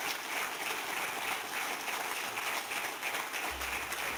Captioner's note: applause